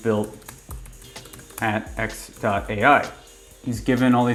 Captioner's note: keyboard typing